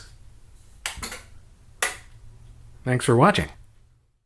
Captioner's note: tape player clunking, amp powers off